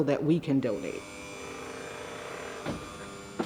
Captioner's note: engine buzzing